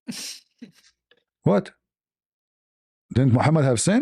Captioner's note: laughter